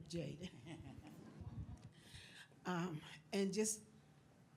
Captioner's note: audience laughs